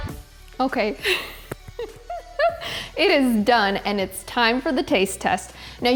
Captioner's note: laughs